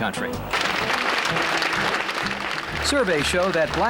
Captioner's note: audience applauding